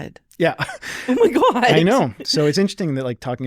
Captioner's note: chuckling